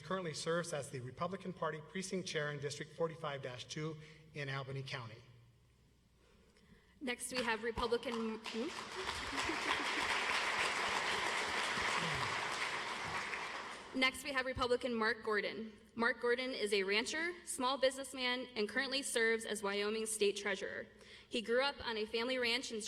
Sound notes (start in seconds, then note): 6.0 audience applauds